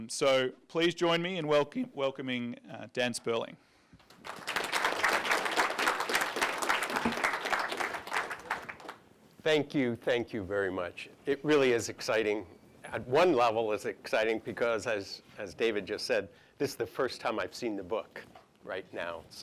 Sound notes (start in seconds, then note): 4.0 applause